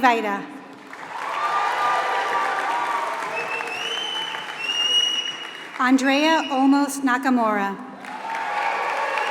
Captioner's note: applause; applause